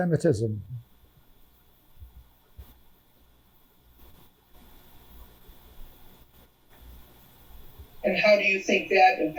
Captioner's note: pauses 6 seconds